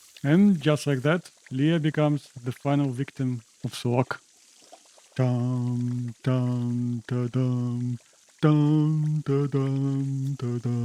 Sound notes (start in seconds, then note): 6.1 humming funeral Music